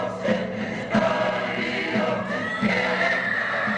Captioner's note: screaming